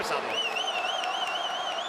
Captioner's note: applause